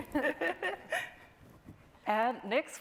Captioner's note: chuckling